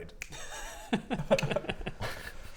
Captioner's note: chuckles